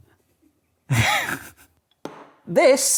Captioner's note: he laughs